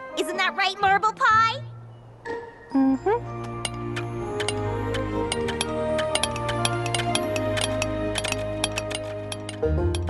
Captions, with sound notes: Isn't that right, Marble Pie? Mm-hm. [clinking]